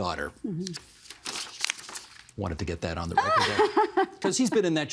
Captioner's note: laughter